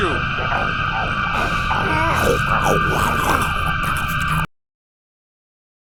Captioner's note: more Goblin noises